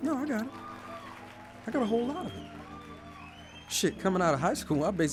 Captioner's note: voiceover